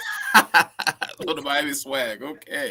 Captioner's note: laughter